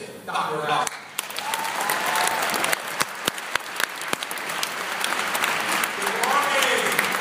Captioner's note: applause